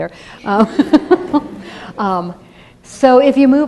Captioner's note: laughter